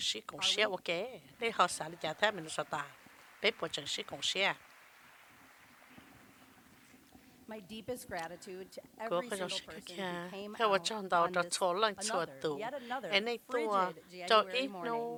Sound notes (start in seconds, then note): 3.0 cheers and applause